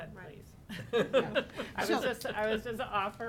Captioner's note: laughing